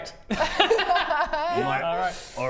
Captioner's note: heartless laughter